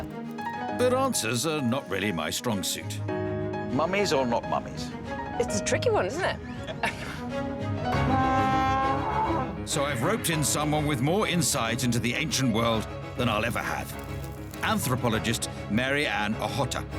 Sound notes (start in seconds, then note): 7.6 blaring